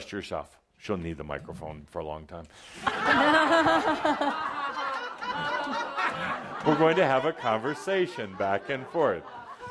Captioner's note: laughter